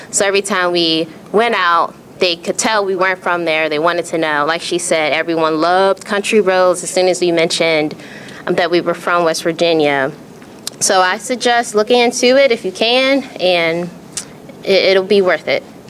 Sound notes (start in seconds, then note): none